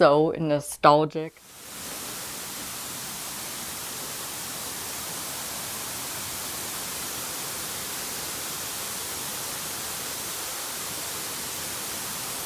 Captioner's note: waterfall sound